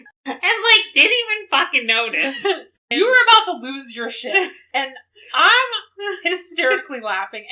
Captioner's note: laughs